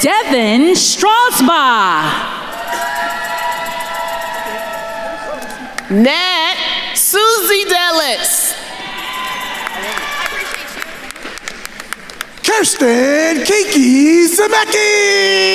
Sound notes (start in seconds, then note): 2.8 attendees cheering; 8.7 attendees cheering and applauding